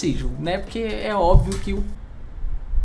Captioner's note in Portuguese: barulho de algo caindo